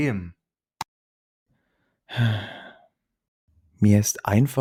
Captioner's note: sigh